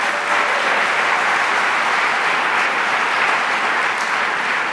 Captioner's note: audience applauds